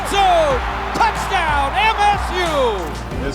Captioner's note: crowd cheering